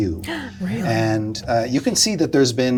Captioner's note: gasp